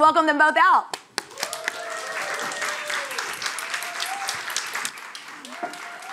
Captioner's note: audience cheering and applauding